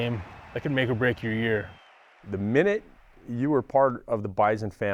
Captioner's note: laughs